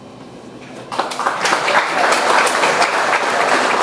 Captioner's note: audience applauds